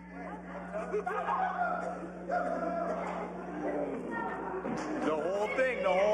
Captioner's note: laughter